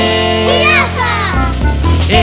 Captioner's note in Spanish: coro de niños gritando